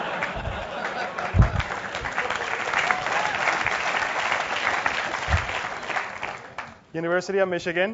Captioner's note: laugh; applause